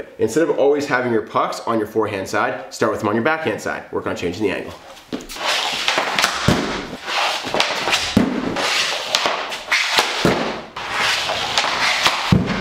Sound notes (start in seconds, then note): 4.7 stick scrapes against floor; 5.1 puck thuds against backdrop